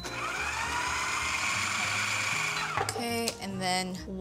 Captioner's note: processor whirs